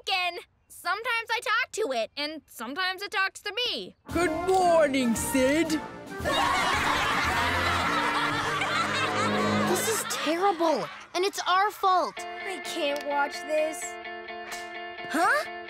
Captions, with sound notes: Sometimes I talk to it and sometimes it talks to me. Good morning, Sid. [laughing] This is terrible and it's our fault. I can't watch this. Huh?